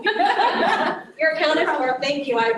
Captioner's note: laughter